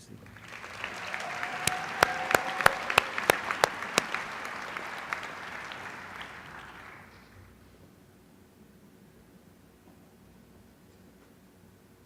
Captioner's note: applause